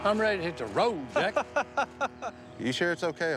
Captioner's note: laughs